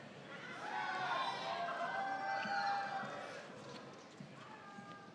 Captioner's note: graduates cheering